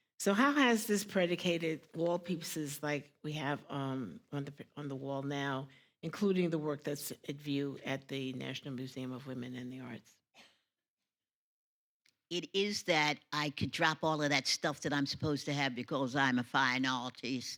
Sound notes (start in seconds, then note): none